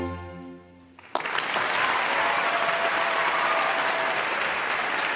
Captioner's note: audience applauding